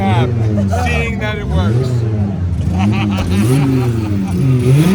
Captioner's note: laughing; car engine roaring